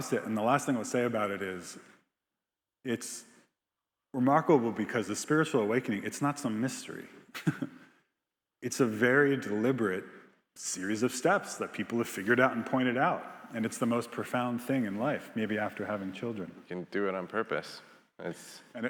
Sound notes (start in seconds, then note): 7.3 chuckles